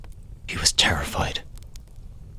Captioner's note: hushed Whisper